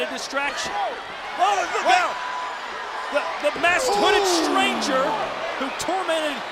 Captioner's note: applause